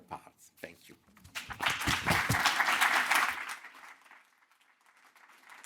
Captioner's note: audience applauding